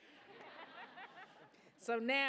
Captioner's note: laughter